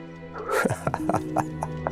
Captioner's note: laugh